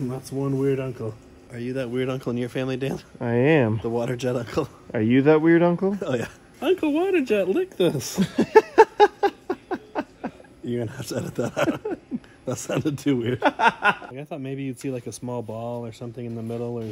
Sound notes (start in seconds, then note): 8.1 laughs